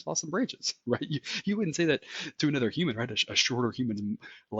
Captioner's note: laugh